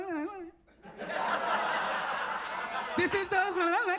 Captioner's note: audience laughs